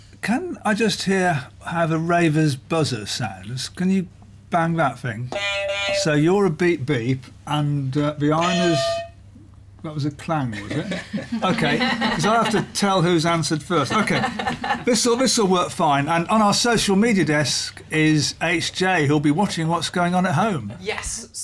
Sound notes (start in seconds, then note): 5.3 beep beep; 8.9 clang; 10.5 laughter